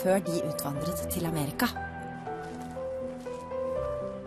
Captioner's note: norwegian narration